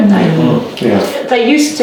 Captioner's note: audience agreeing